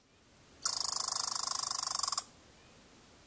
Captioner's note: squirrel natter